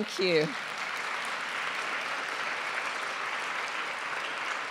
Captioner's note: audience clapping